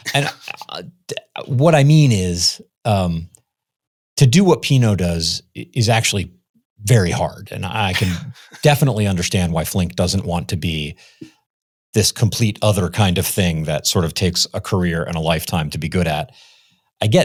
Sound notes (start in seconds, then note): 7.9 chuckles